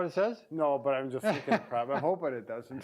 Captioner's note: laughs